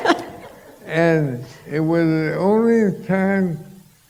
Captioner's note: laughter